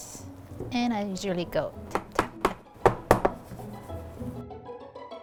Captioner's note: pan tapping; upbeat music